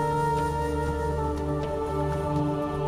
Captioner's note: men chanting